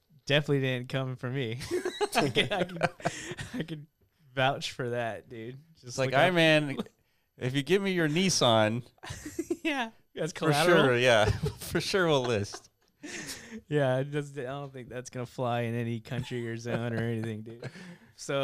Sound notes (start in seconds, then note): 1.7 laughing